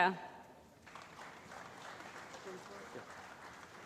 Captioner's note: applause